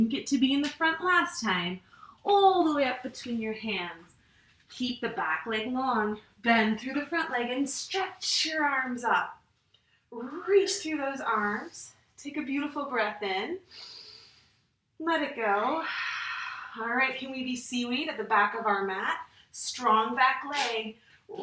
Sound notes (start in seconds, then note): 14.0 inhales; 15.8 exhales